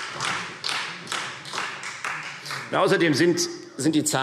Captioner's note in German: Beifall Freie Demokraten